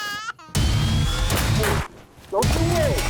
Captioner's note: baby cries; gunshots